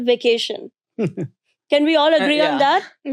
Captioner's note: laughing